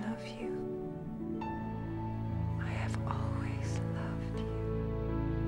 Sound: whispering

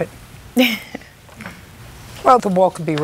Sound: chuckles

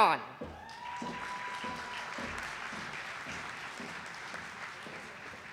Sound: audience applauding

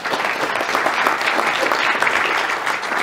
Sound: hand clapping

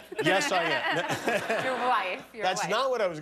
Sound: laughter

